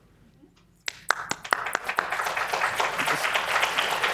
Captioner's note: applause